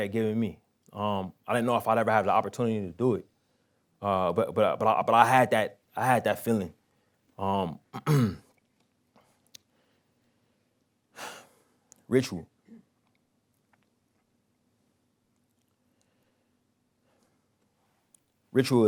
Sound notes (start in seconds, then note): 7.9 clears throat; 9.0 pause; 11.2 sighs; 13.1 pause